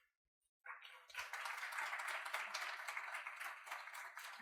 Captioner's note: audience clapping